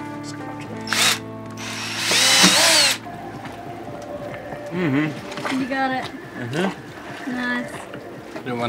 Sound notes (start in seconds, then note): 1.5 drill buzzes